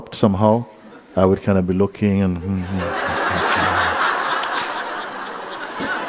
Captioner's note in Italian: Risate